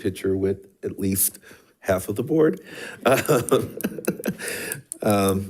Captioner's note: laughs